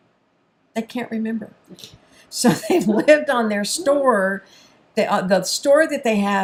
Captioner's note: chuckles